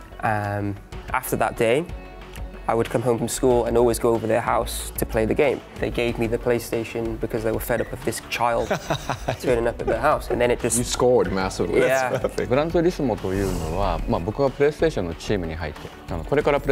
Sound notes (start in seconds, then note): 8.5 laughing; 12.6 Kazunori speaking in Japanese